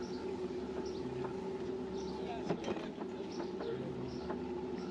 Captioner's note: birds chirping